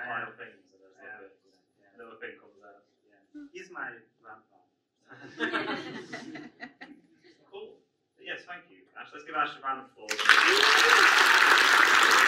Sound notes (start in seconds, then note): 6.9 audience laughs